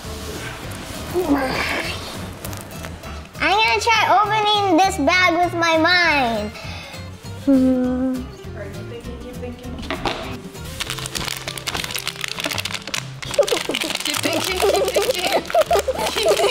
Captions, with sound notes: Mine. - I'm gonna try opening this bag with my mind. (bag opening) (laughing)